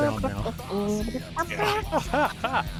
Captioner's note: humming